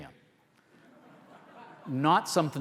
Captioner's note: audience laughter